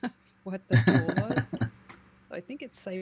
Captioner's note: chuckling